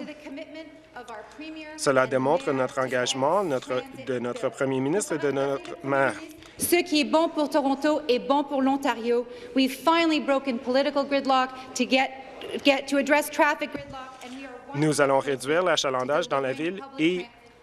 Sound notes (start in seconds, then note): 9.4 speaking in French